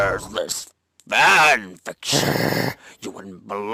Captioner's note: growls